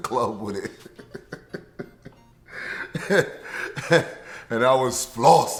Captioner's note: laughing